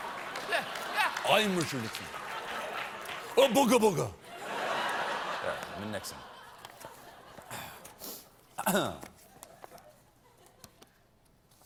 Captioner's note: laughter